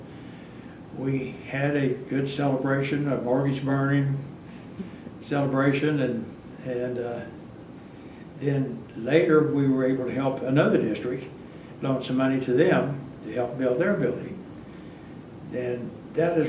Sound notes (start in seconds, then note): none